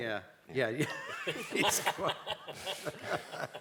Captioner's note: laughter